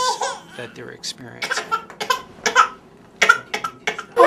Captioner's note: baby crying